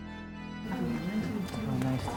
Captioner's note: people chattering